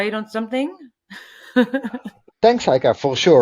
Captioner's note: laughs